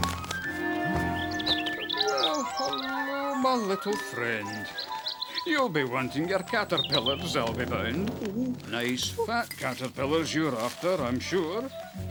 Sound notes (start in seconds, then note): 1.9 twittering